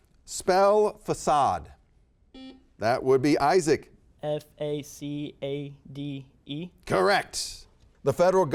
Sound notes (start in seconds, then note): 2.3 buzzer beeping